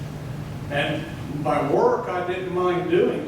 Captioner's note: none